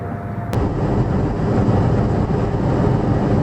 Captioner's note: engine, air conditioner blower on "high" noise